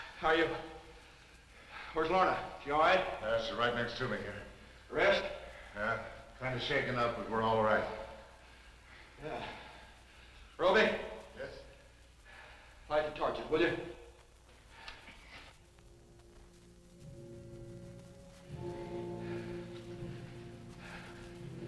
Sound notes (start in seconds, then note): 8.9 sighs; 18.3 tense orchestral music